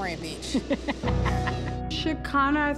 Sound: laughing

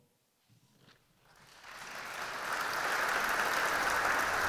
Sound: audience clapping

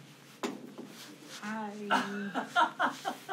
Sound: laughs

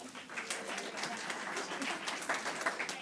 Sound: applause

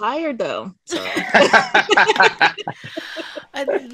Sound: laughing

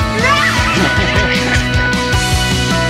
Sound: squealing child's laughter; playful music

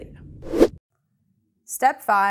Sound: air rushes

